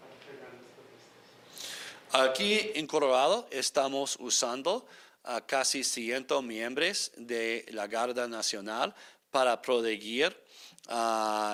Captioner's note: speaking spanish